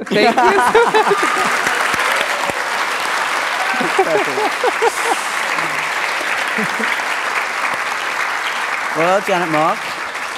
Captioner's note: laughter and Applause and Cheering